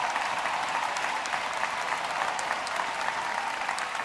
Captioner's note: applause